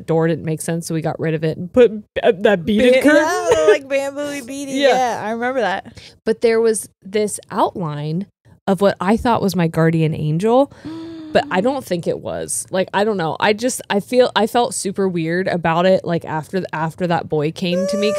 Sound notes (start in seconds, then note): 10.7 gasps